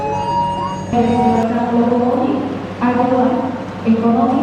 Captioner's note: announcement in Indonesian